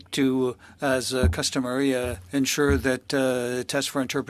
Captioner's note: speaking French